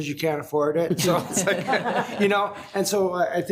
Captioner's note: laughs